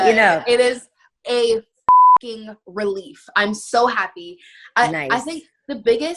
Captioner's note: beep